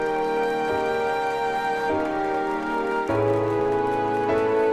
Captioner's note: faint applauding